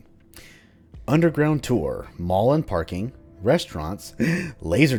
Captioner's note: gasp